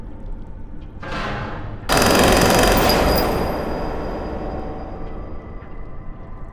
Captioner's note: gun firing; metal clanks; tense music continues